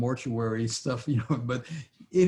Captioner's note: laughs